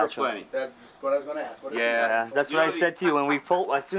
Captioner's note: voiceover